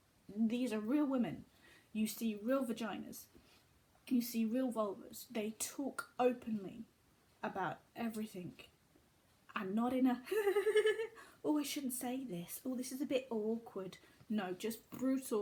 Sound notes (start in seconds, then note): 10.2 giggles